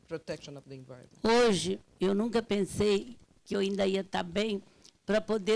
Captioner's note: speaking Portuguese